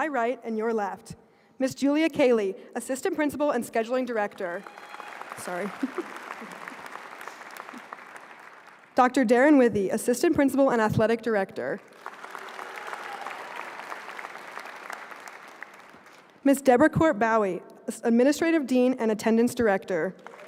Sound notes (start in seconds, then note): 8.1 applause; 15.9 applause